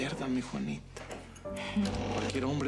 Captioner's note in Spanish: sonido al abrir la puerta